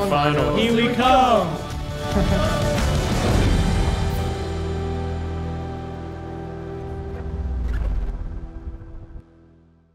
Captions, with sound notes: Final Here we come! (Laughs)